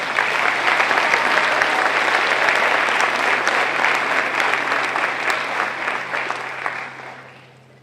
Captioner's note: applause